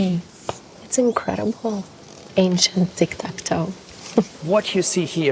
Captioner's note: laughs